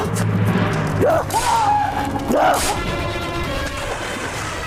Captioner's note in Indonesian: berteriak